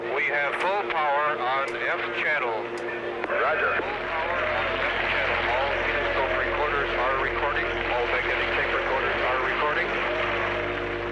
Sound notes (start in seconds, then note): 4.2 applause